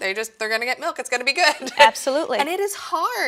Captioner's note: laughs